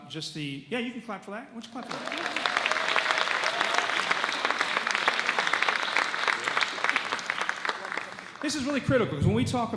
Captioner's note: audience claps